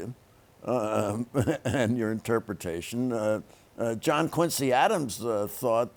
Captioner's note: chuckles